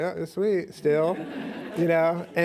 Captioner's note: laughs